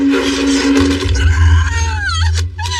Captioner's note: scrcreaming